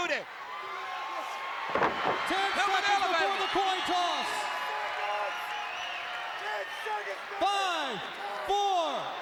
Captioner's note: applause